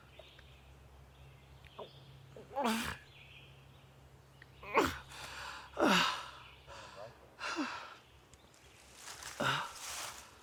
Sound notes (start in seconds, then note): 5.8 Arawn breathing heavily